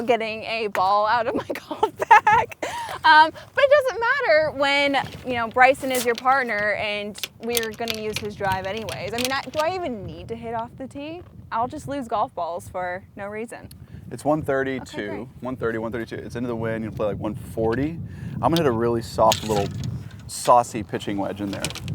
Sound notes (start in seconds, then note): 2.1 laughs; 4.7 laughs